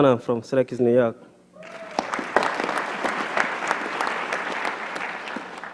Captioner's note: applause